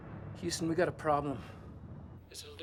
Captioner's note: none